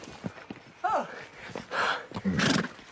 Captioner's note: out of breath; snorts